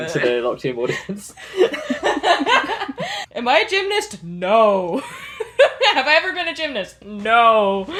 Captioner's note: lauging